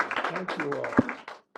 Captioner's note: applause